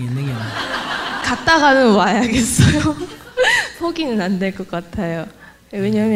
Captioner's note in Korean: 청중 웃음; 웃음